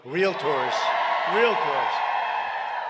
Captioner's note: applause